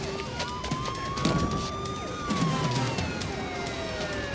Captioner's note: sirens wailing